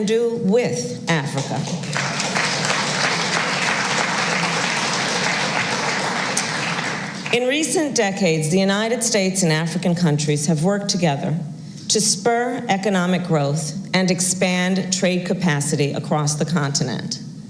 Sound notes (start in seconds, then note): 1.3 applause